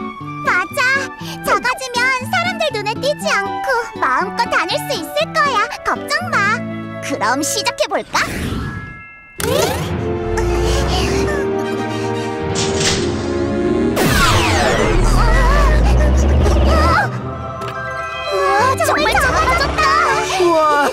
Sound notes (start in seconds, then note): 12.5 machine whirring; 13.9 zap; 18.9 giggling